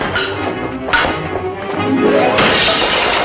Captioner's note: chair shatters